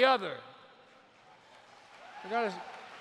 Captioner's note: applause